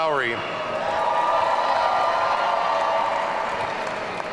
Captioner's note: audience cheering